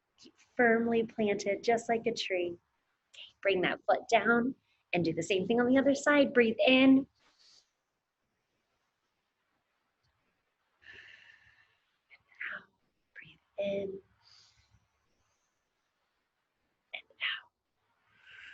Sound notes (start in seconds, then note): 7.4 inhales heavily; 10.9 exhales heavily; 14.2 inhales heavily; 18.3 exhales heavily